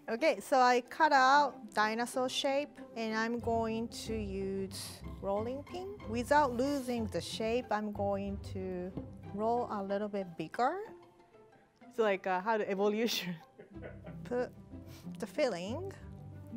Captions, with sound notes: Okay, so I cut out dinosaur shape and I'm going to use rolling pin. Without losing the shape, I'm going to roll a little bit bigger. So like how to evolution. (producer laughing) Put the filling,